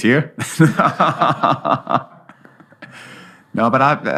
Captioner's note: both laugh